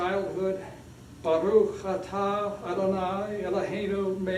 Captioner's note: speaking hebrew